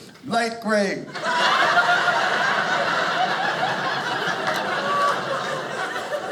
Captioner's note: audience laughing